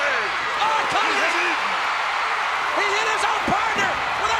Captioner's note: crowd cheers